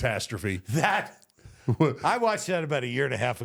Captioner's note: Michael laughs